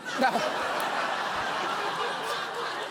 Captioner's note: studio audience laughing